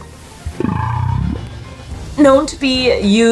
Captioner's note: low whale vocalization